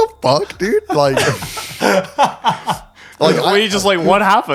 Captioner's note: laughing